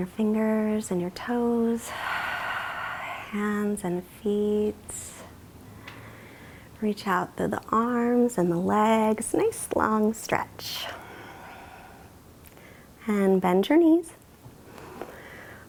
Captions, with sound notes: in your toes (exhales), hands and feet. Reach out through the arms and the legs, nice, long stretch (exhales). And bend your knees (inhales).